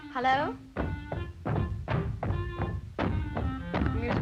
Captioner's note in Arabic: ضربات الأقدام من الأعلى; عزف الكلارينيت